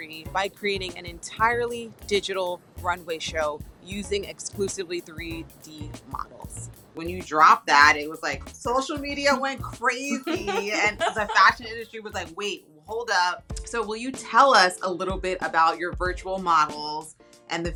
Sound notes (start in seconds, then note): 10.0 laughs